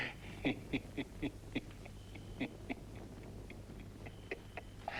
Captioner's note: Torente laughing